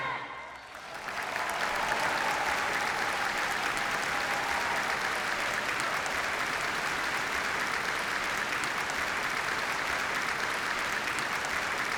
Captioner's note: applause